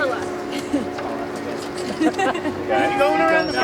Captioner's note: laughs